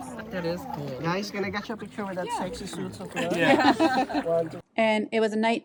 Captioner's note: laughter